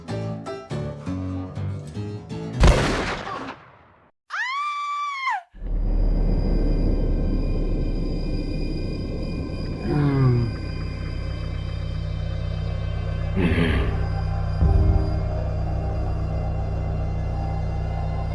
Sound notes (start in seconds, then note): 0.3 upbeat saloon music; 2.6 gun bangs; 4.7 person yells; 6.2 suspenseful music; 9.8 person groaning; 10.5 warbled suspenseful music